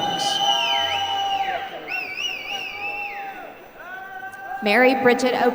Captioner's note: applause